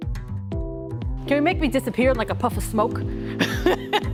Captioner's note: laughter